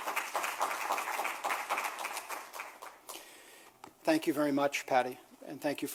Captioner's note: applause